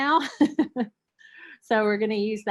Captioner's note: chuckling